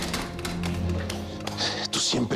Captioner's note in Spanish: Sonido al cerrar la puerta